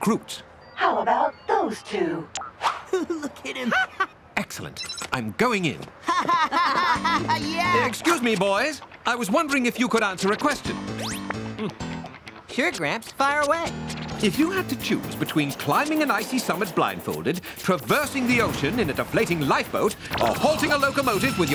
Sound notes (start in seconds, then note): 2.8 laughs